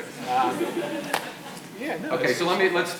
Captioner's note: audience laughs